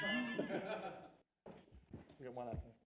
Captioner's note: laughter